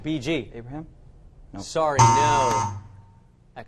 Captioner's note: wrong answer buzzer